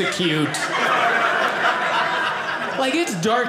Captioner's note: audience laughing